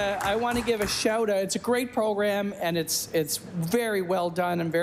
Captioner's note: applause